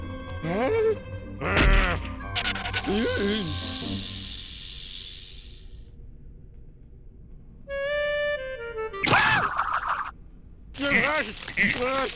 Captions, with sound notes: HUH? GRR! (skidding) EEE! (rattling and hissing) HA! (crunching)